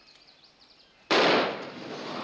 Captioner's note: exploding